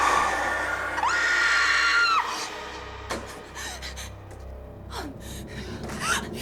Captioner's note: screams